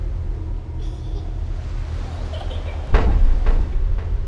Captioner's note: laughing